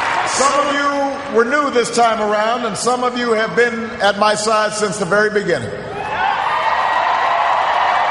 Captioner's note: cheers, applause